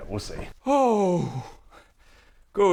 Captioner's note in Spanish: suspiro de alivio